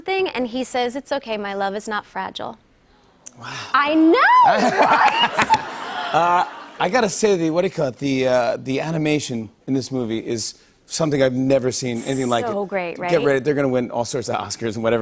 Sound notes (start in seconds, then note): 4.2 audience aws; 4.5 laughter